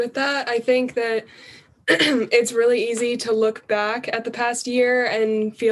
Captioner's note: cough